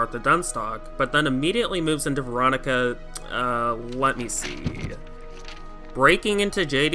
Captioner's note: ruffle papers fx